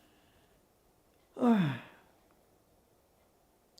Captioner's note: sighing